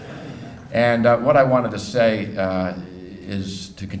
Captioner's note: laughing